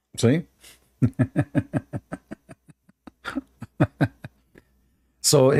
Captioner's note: Ketawa